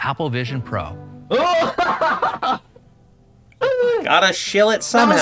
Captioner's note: laughs in the dystopian VR goggles